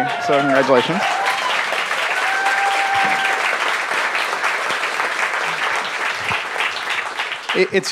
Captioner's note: laughter and applause